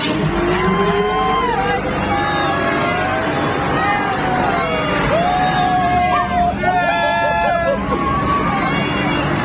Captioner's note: people cheering